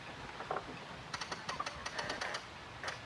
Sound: winch clacking

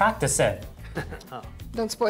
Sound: laugh

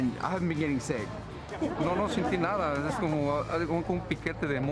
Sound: Spanish

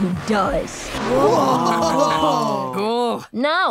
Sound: laughing

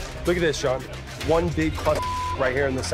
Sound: beep

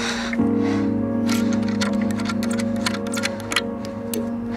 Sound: Heidi breathes heavily; metal clings

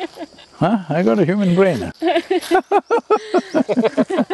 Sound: laughter

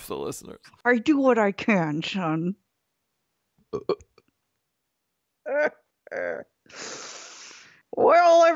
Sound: belches, cackles and sniffles

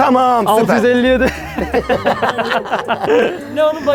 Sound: laughs

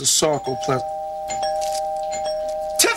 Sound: doorbell rings

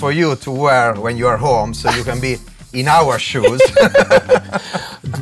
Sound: laugh

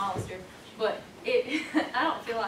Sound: laughs

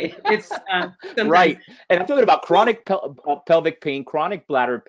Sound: voice muffled

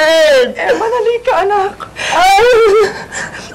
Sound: whines

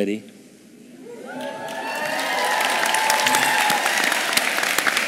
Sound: audience cheering

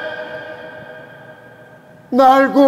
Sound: holding back his tears

